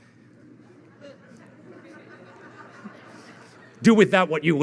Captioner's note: audience laughing